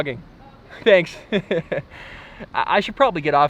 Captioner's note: laughs